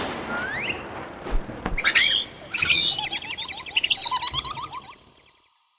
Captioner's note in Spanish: Sonido de pájaro